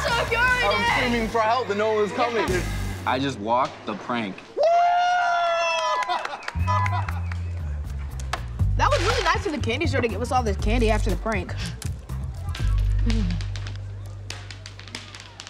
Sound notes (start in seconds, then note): 9.8 cheering